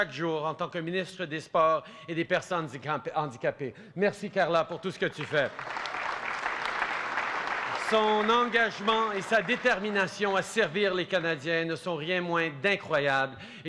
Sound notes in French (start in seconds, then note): 4.9 Applaudissements